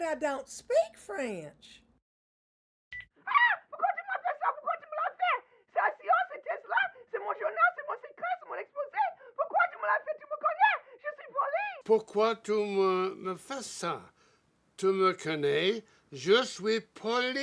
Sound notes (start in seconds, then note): 3.4 Cassie screaming in French; 12.5 Dr. Strauss speaking in French